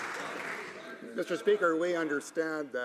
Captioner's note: some Applause